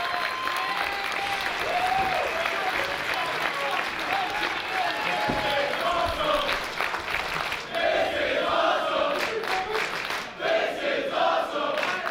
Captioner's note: applause